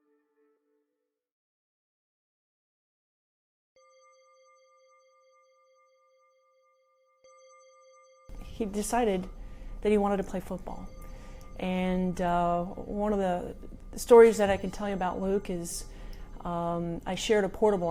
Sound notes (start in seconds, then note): 4.2 bell ringing solemnly